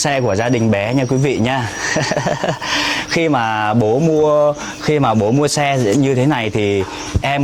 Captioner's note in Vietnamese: tiếng cười